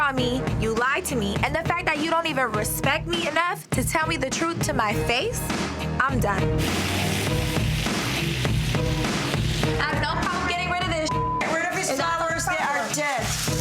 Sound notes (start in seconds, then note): 11.0 beep